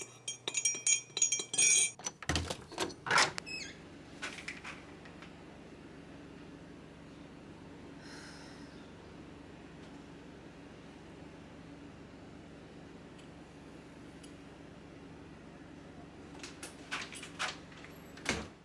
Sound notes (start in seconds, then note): 8.0 sighs in discontented Texan